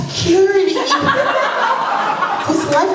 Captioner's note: laughter